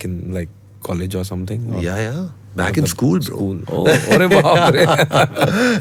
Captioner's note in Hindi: हंसी